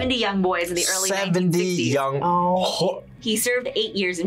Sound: gags

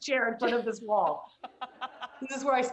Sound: laughter

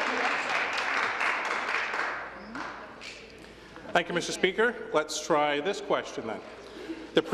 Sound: applause

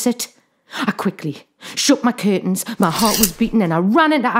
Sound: curtain rings rattle

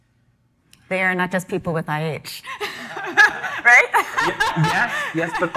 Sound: laughs

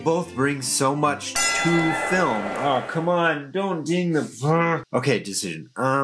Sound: bell dings

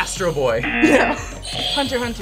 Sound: buzzer rings; buzzer; laughs

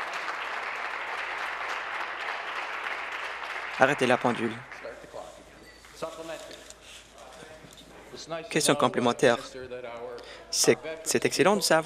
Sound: some Applause

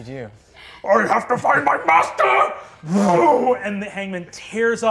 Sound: whooshes

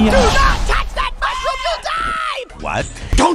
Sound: Homer Scream

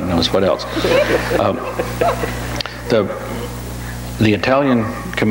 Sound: audience laughs

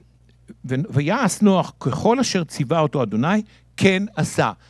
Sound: speaking in Hebrew

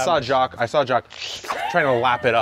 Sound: slurping

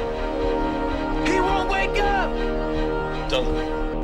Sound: voiceover

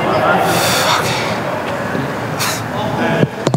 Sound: sighs

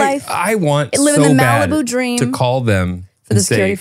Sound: screams

